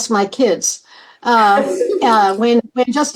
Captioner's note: laughter